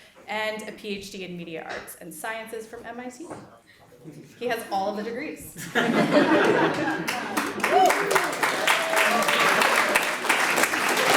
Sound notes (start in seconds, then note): 5.6 audience laughs; 8.1 audience applauds